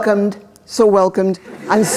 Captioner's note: laughter